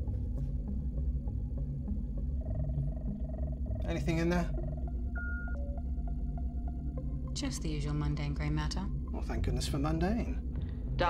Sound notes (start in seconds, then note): 3.8 device trilling